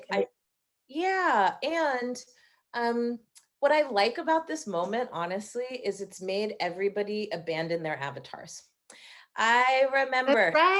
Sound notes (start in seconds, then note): none